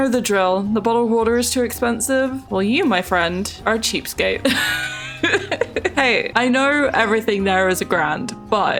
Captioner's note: laughs